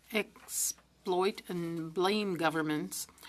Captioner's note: speaking French